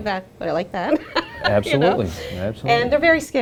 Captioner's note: laughing